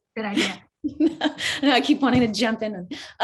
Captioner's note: laughs